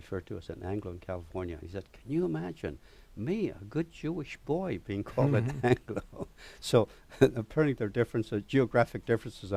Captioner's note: laughs